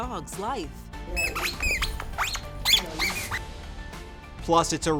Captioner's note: chew toy squeaks